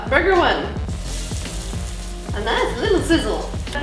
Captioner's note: sizzling